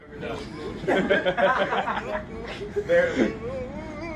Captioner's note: men laugh